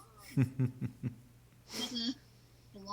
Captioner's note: chuckling